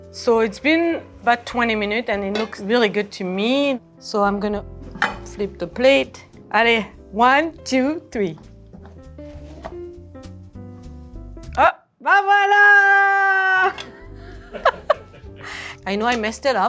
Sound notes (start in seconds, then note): 9.8 rice softly thunks; 9.8 soft jazzy music; 14.1 laughing